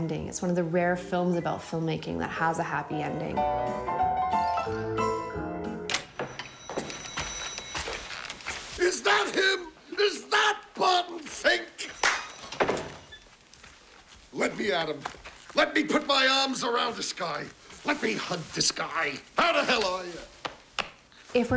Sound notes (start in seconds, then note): 2.8 old fashioned music; 11.9 claps